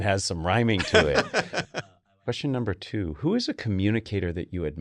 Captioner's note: laugh